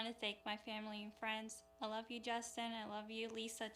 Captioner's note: speaking spanish